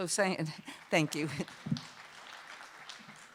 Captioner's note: light applause